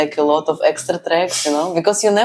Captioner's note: laughs